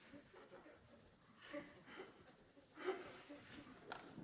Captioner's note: mixed reactions from audience